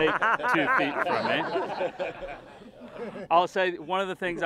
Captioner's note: laughter